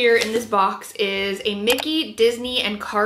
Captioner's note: mouse clicking